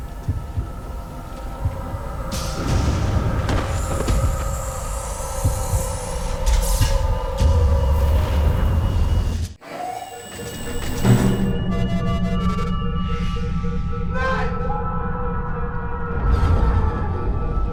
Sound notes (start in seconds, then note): 2.4 loud boom; 9.6 alarm sounding